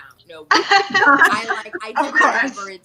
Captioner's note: all laugh